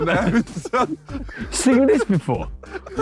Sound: all laughing

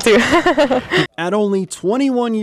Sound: laughs

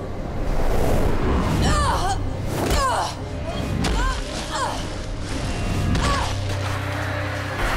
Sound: groaning

